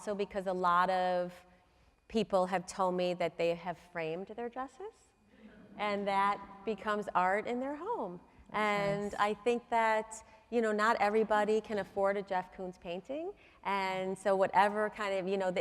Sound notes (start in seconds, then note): none